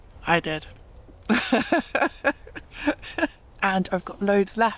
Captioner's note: chuckling